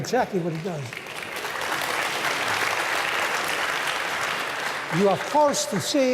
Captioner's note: applause